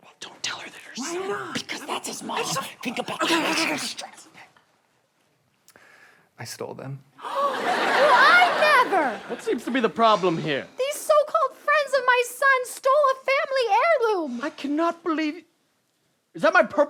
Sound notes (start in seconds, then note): 2.3 sounds of protestation; 7.1 gasps